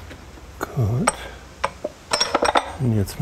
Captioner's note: metal clacking